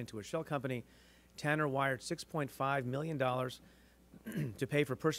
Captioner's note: clears throat